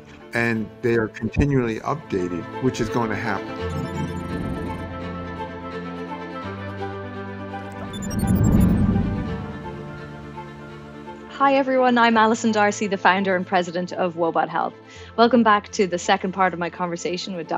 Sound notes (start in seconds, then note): 5.4 uplifting music; 7.7 digital chiming